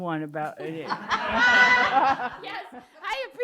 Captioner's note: laughing